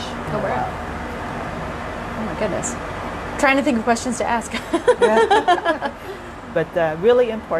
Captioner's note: laughter